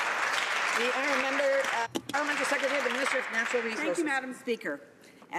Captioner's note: some Applause